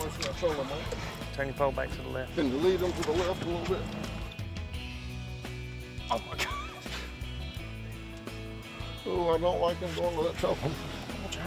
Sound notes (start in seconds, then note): 6.1 chuckles